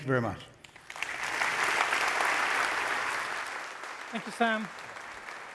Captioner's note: applause